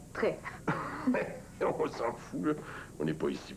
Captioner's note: Il rit